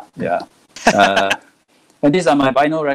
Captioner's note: laughing